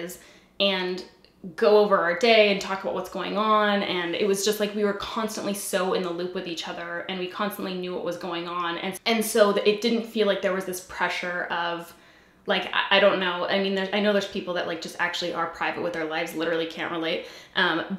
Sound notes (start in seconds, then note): none